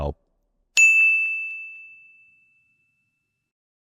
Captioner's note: bell chiming